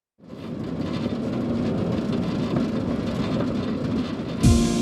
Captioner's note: train wheels clacking